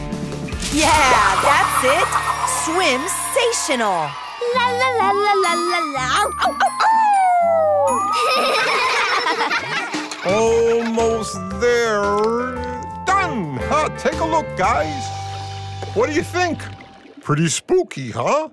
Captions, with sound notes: Yeah, that's it. Swimsational! [humming] [howling] [laughing] Almost there... Done! Take a look, guys. What do you think? Pretty spooky, huh?